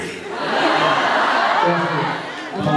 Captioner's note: laughs